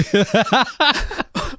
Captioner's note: laughing